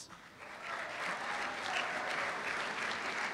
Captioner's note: applause